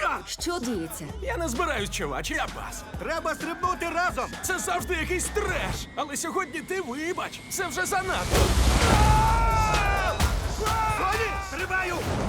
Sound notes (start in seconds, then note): 8.8 screaming